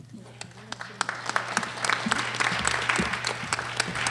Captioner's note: applause